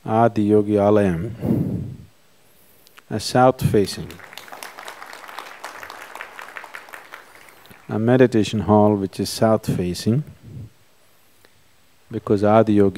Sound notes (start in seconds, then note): 3.8 applause